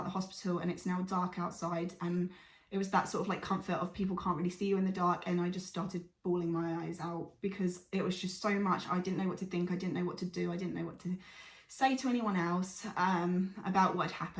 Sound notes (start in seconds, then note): 11.2 deep breath